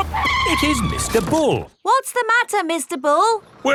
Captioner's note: tires screeching